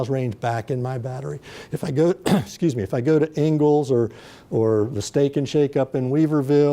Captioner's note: coughs